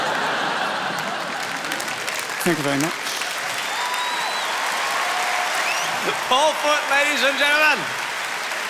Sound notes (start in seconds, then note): 0.0 crowd laughs; 4.2 crowd cheers and applauds